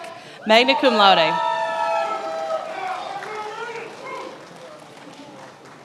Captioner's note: attendees applauding